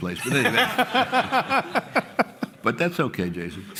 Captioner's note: laughter